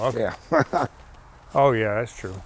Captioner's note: laughs